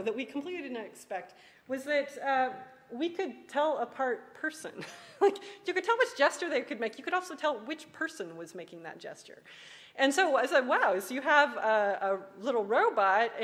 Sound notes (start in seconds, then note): 4.3 laughs